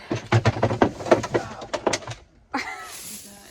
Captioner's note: classic noise of everything falling out of the fridge